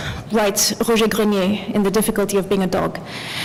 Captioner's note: french